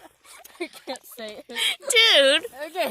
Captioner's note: laughing